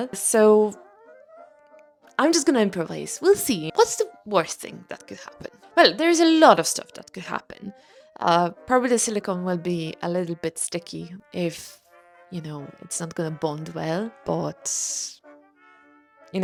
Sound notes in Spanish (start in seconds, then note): none